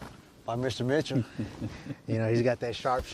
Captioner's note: laughs